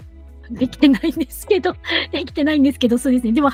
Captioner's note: laughs